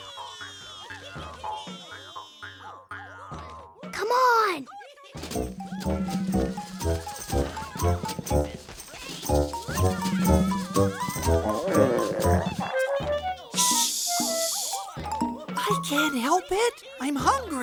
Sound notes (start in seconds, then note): 9.5 gurgling of stomach